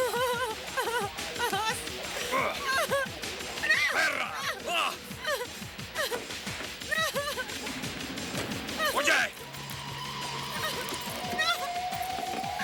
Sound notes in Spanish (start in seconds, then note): 2.1 Grunhidos; 3.6 Gritos; 8.5 Jodie soluçando